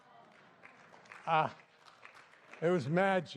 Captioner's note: applause